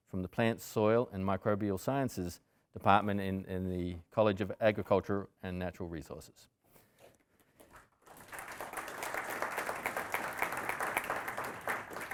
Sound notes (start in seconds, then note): 8.0 audience applauding